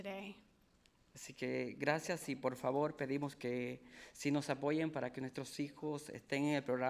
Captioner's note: speaking in foreign language